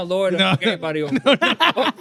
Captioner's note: laughing